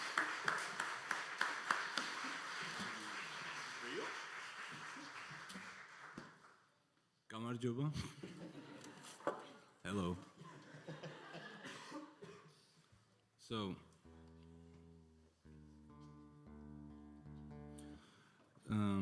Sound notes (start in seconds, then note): 10.4 laughs